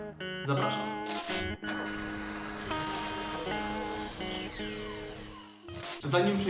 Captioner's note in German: Motor, Kreissäge und Funken